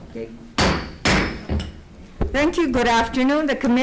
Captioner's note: gavel thumps